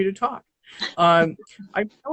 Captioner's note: laughs